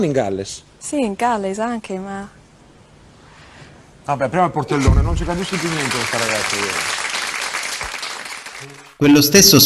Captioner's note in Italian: applauso